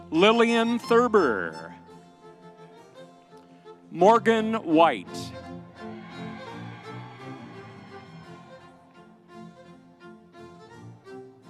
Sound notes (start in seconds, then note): 5.7 audience cheering; 7.3 lively music continues